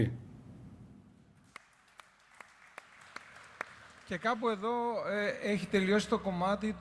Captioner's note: applause